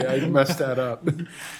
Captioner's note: laughter